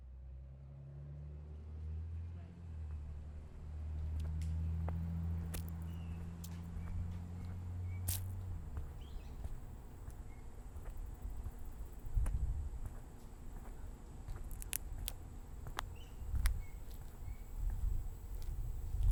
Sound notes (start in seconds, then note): 0.7 outdoor Ambience, Birds Chirping; 4.9 footsteps